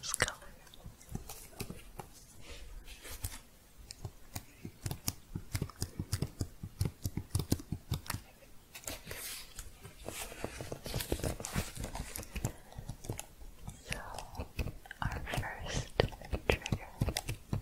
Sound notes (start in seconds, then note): 1.6 shuffling and typing sounds